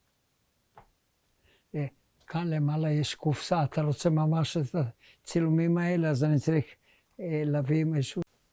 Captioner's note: hebrew